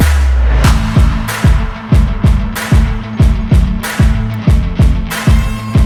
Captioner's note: applause